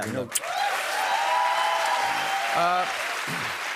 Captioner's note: cheers and applause